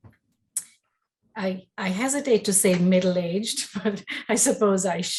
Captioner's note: chuckles